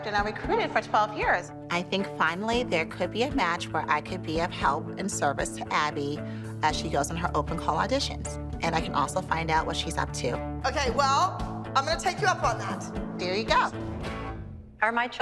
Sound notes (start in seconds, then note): none